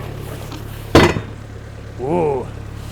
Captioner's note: wood thuds